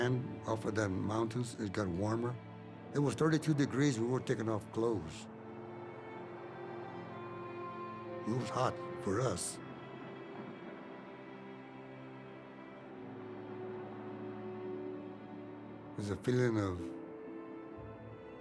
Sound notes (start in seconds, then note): none